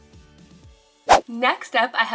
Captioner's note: upbeat music; slide whooshing